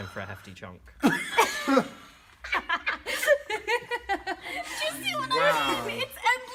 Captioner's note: dies laughing